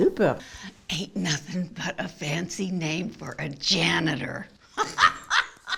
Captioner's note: laughs